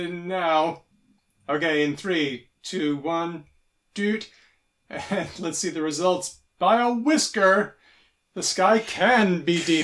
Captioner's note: beeps